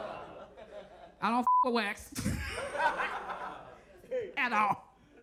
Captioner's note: beep; laughs